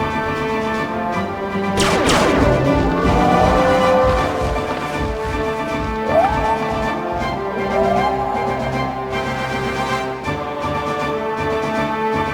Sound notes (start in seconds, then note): 1.7 weapon blasts; 1.8 creatures groan; 4.9 boots padding; 7.4 creatures calling; 8.7 intense dramatic music